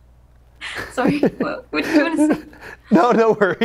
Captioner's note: laughs; both laugh